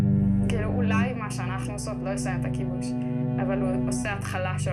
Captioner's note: speaking foreign language